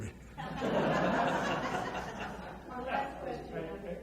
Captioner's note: audience laughs